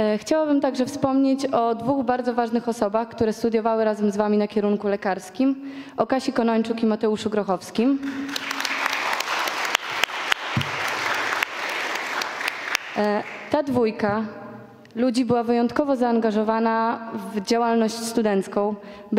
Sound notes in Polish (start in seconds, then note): 9.5 oklaski